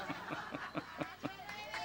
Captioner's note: laughs